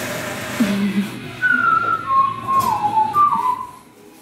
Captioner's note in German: tätowierer pfeift